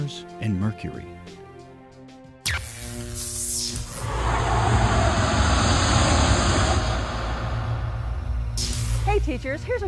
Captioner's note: sound Effects